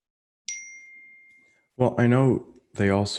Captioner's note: notification bell dings